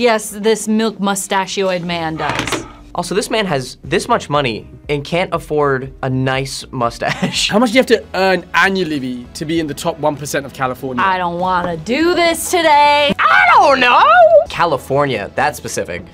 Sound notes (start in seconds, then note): 6.9 laughs